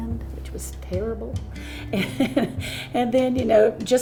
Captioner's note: laughs